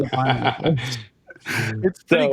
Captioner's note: laughing